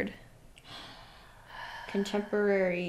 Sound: sigh

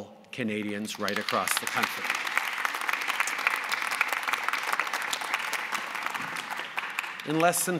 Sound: applause

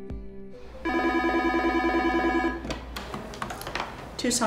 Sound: phone ringing

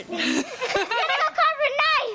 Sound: laughter

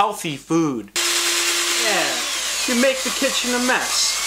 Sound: drill Sounds

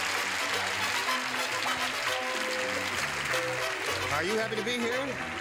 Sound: audience applause

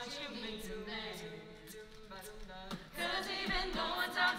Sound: beat box

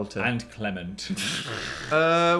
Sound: laughs

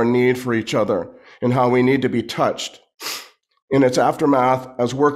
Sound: sniffles

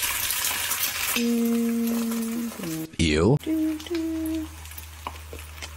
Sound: humming softly

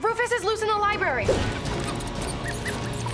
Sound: squeaking

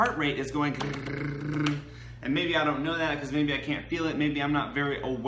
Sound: rapid beating sound

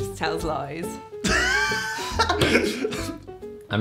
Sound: laughs

